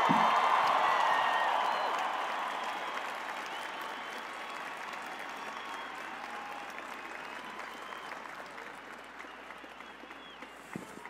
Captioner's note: cheers and applause